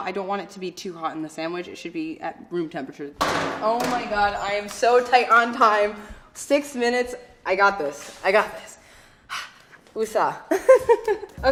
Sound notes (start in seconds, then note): 9.2 sighs; 10.5 laughing